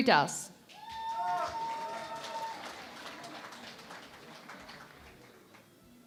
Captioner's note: cheering and Applause